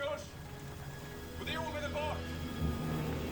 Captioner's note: speaking Swedish